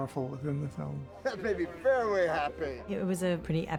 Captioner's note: chuckles